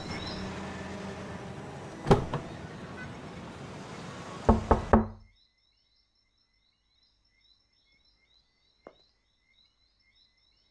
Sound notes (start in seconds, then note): 4.7 knocking